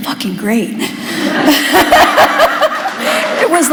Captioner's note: laughter